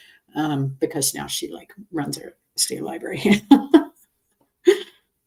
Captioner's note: laughs